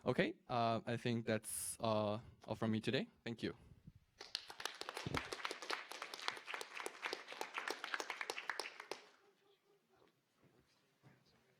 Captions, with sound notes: OK. I think that's all for me today. Thank you. [APPLAUSE]